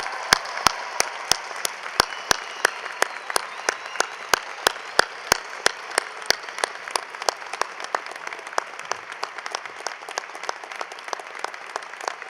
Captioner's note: cheering and applause